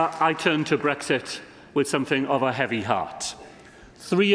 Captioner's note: applause